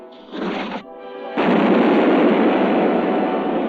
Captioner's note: fuse blazing; explosion